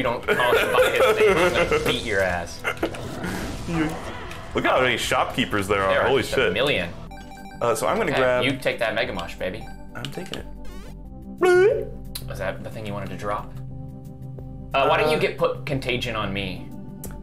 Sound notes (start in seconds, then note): 0.2 laughing; 10.6 mushroom pick-up sfx plays; 11.5 imitates the sound